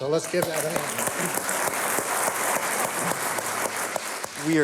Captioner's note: applause